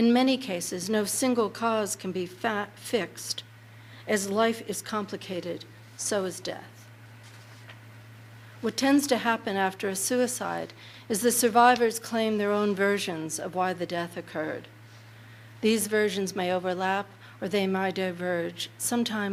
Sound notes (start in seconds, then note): none